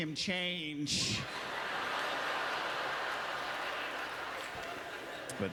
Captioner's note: audience laughter